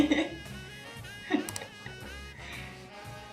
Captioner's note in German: Klick auf zusage